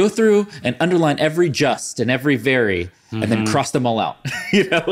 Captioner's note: laughs